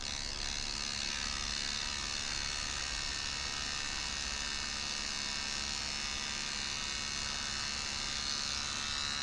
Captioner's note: buzzing sound